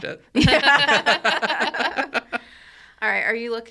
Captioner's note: all laughing